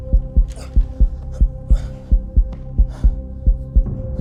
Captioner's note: slower heartbeat